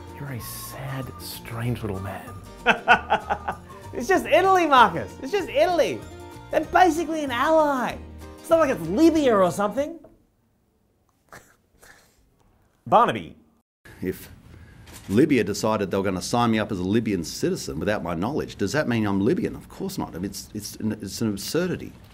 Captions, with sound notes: You're a sad, strange little man. [laughs manically] It's just Italy, Marcus. It's just Italy! They’re basically an ally. It’s not like they’re Libya or something. Barnaby. If Libya decided they were going to sign me up as a Libyan citizen without my knowledge does that mean I'm Libyan? Of course not, I mean it's an absurdity.